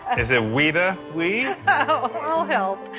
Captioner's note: chuckles